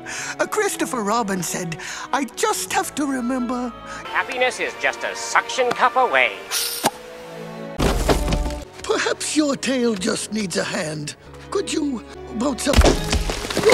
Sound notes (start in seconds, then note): 6.4 sticky object ripped off sound; 7.8 log Creaping